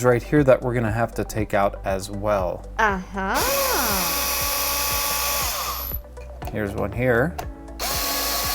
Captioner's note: female voice: ahhh haaa